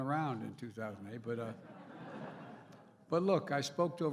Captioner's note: laughter